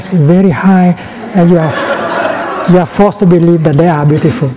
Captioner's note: laughter